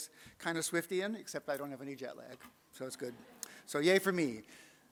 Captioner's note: audience laughs